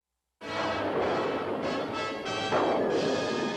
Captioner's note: thunderclap